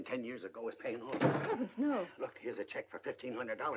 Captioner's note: door closes hard